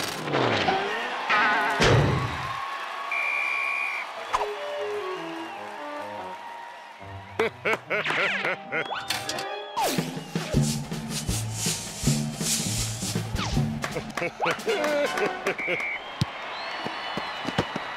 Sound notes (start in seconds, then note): 0.8 booing; 3.0 whistle; 7.3 chuckling; 13.9 chuckling